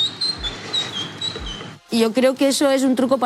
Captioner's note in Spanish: Silbido